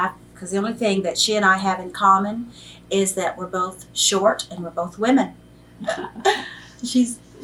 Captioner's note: laughs